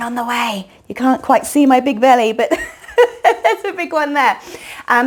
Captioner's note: chuckles